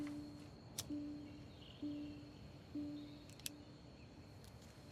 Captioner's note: lighter clicking